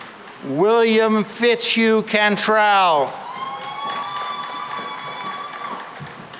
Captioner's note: cheering and applause